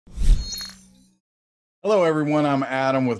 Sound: words whoosh and beep

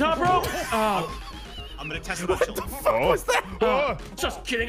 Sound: laughs

